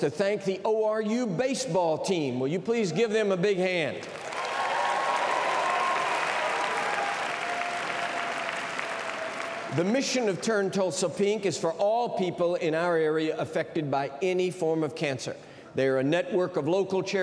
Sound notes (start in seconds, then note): 8.9 cheers and applause